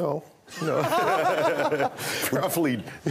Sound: laughter

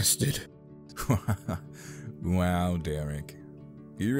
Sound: laughs

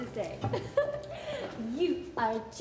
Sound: giggles

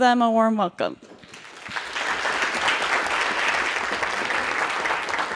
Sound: audience claps

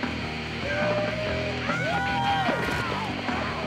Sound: people cheering

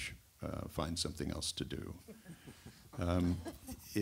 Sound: laughter

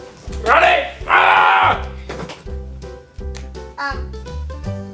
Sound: grunts

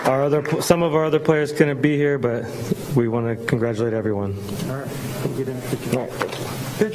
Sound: applause

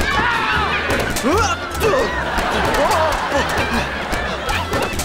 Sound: screaming; grunting

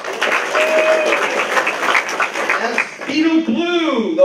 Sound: applause

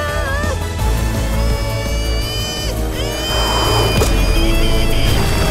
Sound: groaning

